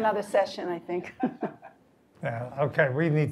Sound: laugh

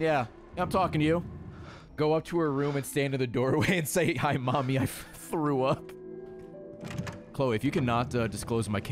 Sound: laughs

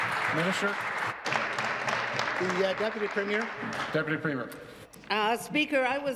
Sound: applause

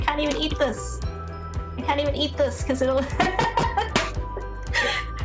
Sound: laughs

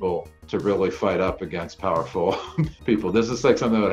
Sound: chuckles

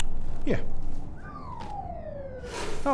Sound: cartoon gravity noise

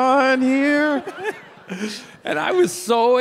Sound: Tim and audience laughing

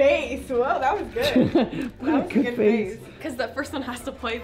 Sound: laughs

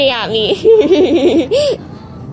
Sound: laughs For Real

